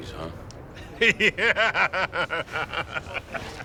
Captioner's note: man laughs